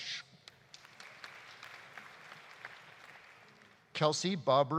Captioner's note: audience applauding